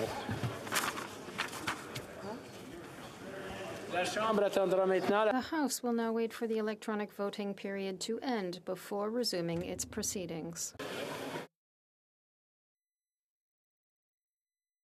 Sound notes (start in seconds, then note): 9.4 speaking French